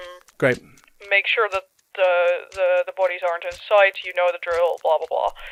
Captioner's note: over the phone